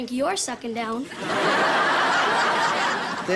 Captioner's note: audience laughter